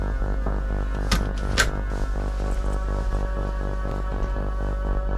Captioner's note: door closing